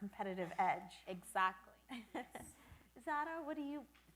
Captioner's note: laughs